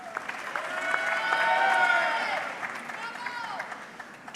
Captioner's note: audience clapping